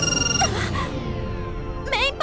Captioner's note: gasp